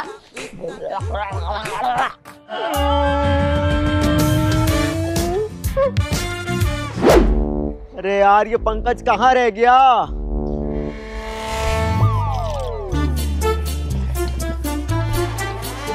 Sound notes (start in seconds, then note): 2.2 crying